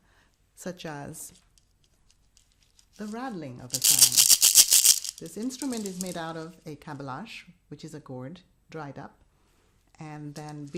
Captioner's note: rattling sound